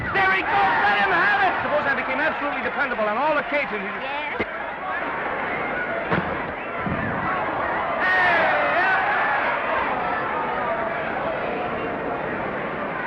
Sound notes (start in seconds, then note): 5.9 crowd cheering; 5.9 punch thudding; 8.9 crowd cheering